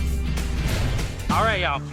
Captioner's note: water sloshing